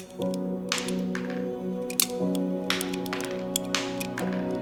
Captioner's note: bullets rattle